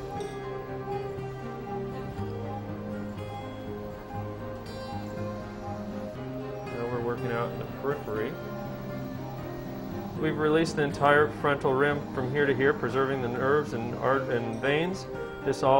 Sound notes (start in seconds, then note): 0.7 medical beeping